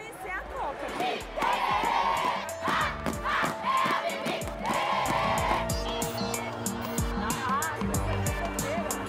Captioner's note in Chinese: 掌声